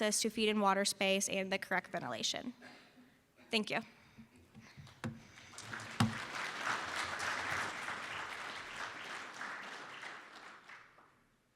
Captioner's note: round of applause from audience